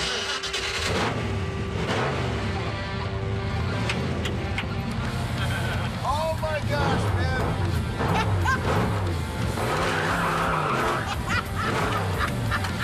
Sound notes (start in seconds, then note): 0.1 engine revving; 8.0 laughs; 8.6 engine revving; 9.8 tires squealing; 10.1 laughs